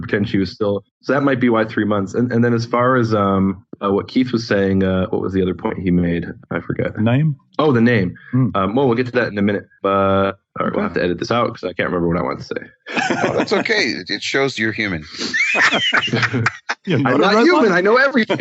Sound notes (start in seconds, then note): 12.8 laughing